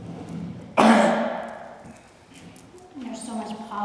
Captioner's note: coughs